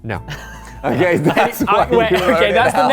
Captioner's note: laughing